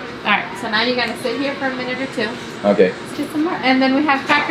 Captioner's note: none